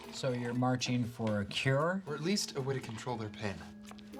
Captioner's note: slurps